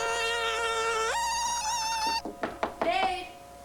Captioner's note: knock on door